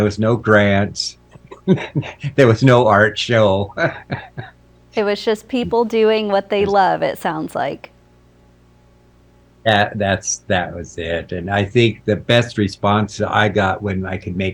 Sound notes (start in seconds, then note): 1.6 chuckling; 3.6 laughing